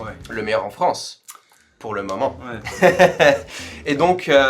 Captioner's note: laughs